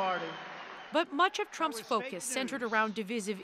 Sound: cheers and Applause

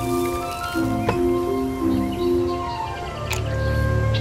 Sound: birds chirping

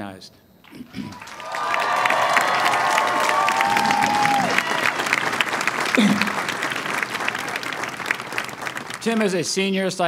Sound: cheering and applause

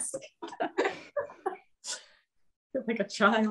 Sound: laughs

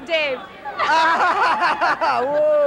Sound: laughing

